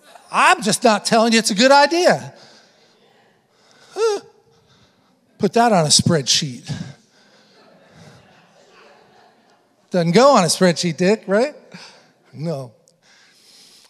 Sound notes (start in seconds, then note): 5.8 congregation laughing